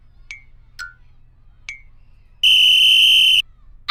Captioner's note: whistle blows